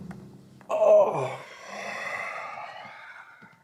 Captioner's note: grunts